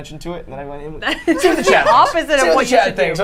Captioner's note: all laughing